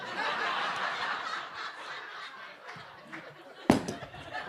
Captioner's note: audience laughing